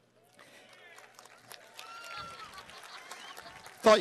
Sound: cheering

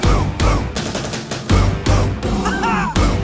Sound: roar!

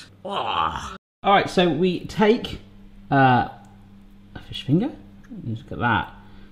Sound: groans

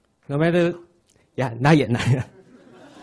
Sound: audience laughs; laughs

